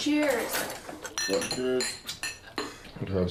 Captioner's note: glasses clinking